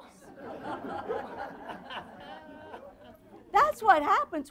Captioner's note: audience laughter